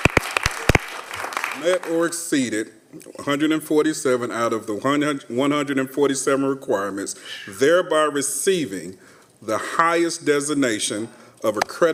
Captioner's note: applause